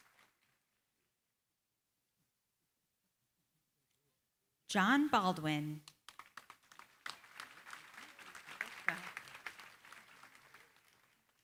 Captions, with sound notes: John Baldwin. [APPLAUSE]